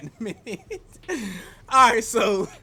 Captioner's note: laughs